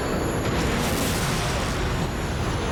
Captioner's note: gunshot